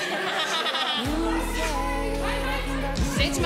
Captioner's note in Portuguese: risos; falatório